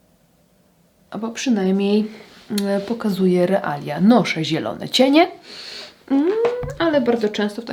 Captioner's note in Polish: parsknięcie